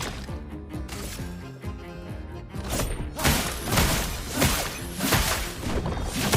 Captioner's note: gunshots